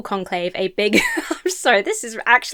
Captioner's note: laughs